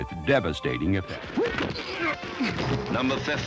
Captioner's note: grunting